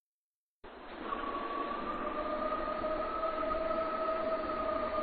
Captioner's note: creature howling